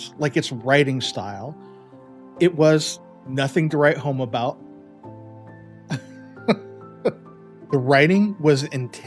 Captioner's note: laugh